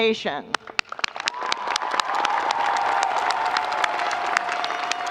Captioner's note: audience cheering